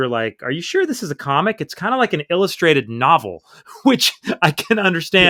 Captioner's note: laughter